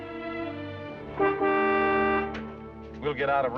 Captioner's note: honks horn